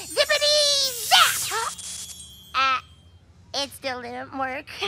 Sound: gasps

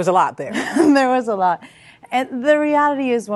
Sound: laughter

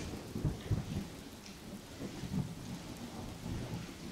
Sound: thunder cracking

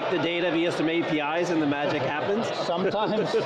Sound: laughs

